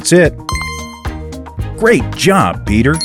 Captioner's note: bell ring